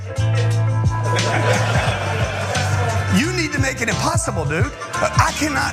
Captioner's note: laugh